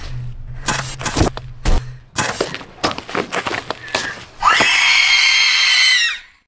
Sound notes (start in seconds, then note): 0.1 loud static noises; 4.4 terrifying scream